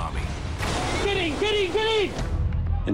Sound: non-english speech

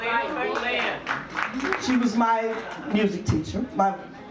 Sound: audience claps

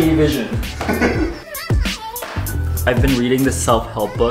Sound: laughing

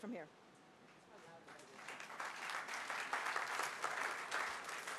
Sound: applause

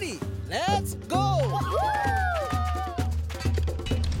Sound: children cheering

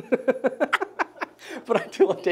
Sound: laughing

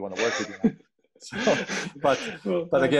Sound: laughing

